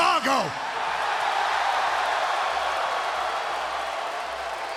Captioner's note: crowd cheering